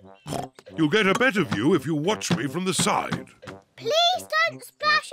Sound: oinks

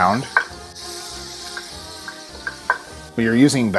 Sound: sizzling

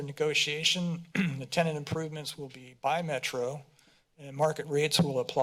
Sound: clears throat

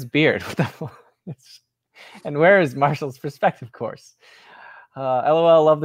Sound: laughs

